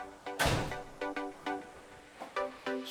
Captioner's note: click